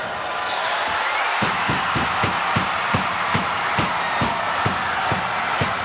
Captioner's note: crowd cheering; Paul pounding